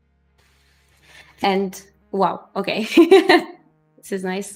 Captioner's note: laughs